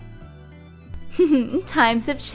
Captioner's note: giggle